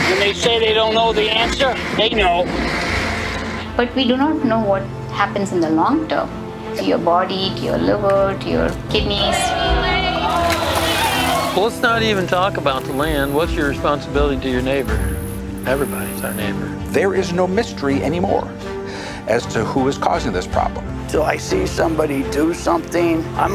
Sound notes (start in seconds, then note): 9.0 crowd cheering